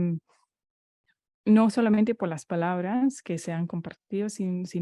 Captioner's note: Spanish